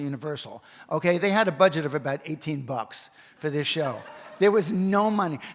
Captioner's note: audience laughs